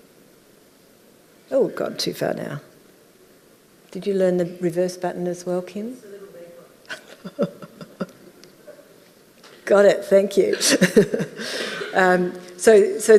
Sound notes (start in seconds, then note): 6.1 voice muffled; 6.9 laughing; 10.6 laughing